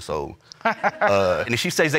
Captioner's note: all laugh